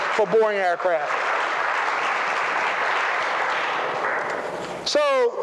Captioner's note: applause